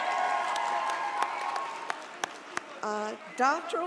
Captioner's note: audience cheers